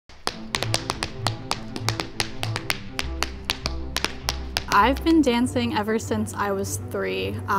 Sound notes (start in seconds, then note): 0.1 tapping